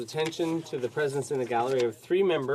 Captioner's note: speaking French